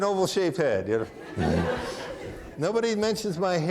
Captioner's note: audience laughing; chuckles